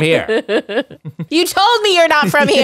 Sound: laughter

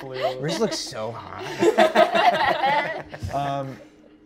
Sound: laughing

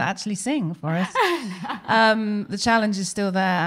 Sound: laughing

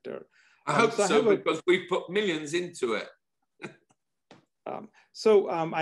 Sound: laugh

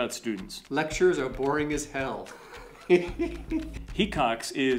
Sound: chuckles

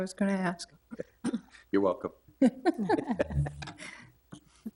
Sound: people laughing

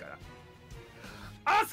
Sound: inhales

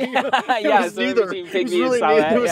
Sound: laughing

